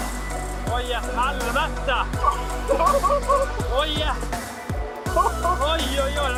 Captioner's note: a lot of swearing